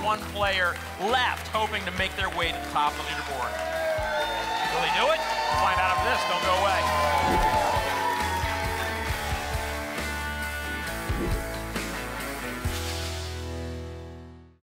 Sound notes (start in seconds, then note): 7.1 applause and cheering